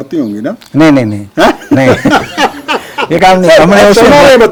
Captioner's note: laughs